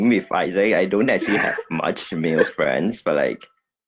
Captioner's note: laughs